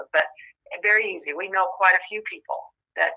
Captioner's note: none